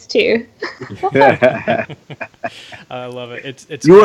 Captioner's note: laughing